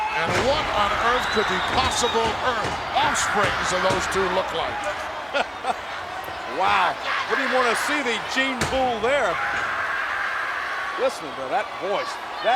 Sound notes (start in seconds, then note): 3.2 laugh